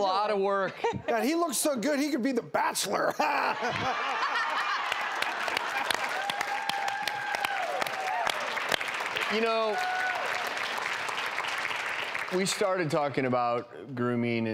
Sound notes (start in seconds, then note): 3.2 laughing; 4.4 applause